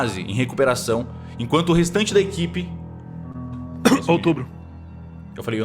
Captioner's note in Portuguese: tosse